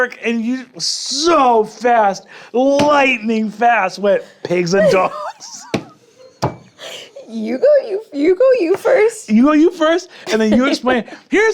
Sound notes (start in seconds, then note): 6.1 laughs